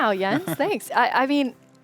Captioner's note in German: lacht